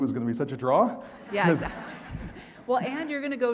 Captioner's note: audience laughing